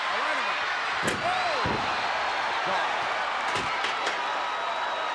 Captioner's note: chair smacks; crowd chattering